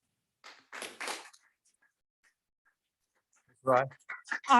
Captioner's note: audience clapping